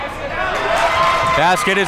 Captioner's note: crowd cheers